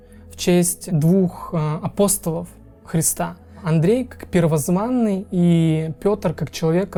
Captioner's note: in English